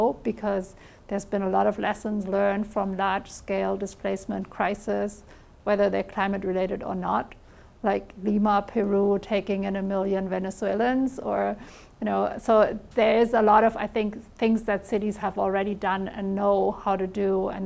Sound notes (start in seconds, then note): none